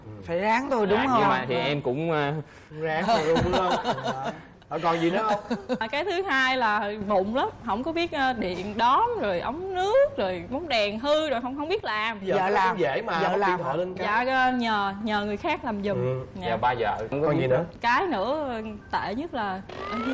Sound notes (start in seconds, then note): 3.2 laughing